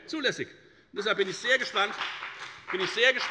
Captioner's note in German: Beifall bei der FDP